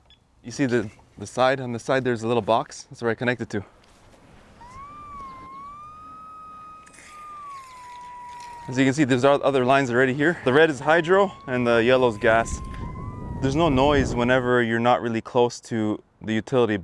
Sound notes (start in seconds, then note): 4.6 electromagnetic line locator begins to buzz